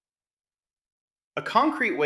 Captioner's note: pause